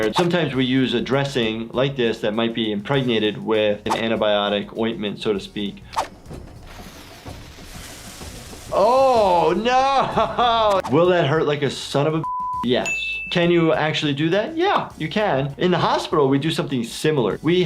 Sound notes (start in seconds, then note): 5.3 cinematic music; 9.6 laughs; 12.2 beep